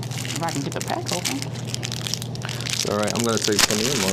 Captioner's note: wrapper scrunching continues